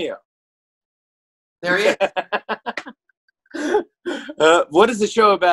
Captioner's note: laughs